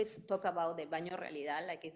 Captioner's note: speaking in foreign language